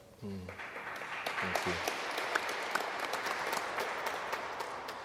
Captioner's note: audience applauds